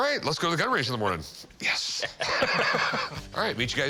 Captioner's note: laughs